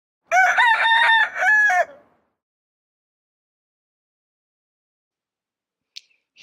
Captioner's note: rooster crowing